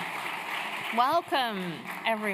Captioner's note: applause